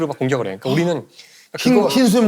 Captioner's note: gasp!